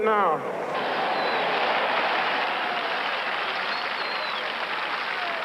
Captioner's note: cheers and applause